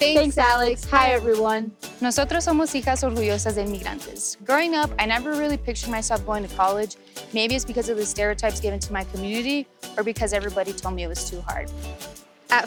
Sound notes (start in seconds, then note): 2.2 speaks in Spanish